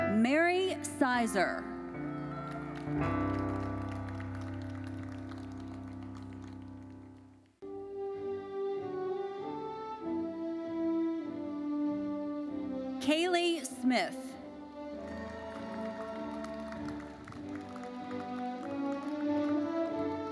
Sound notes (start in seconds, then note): 2.3 audience applauding; 5.0 gentle uplifting music fades; 8.2 uplifting classical music; 14.9 audience applauding; 15.0 audience cheering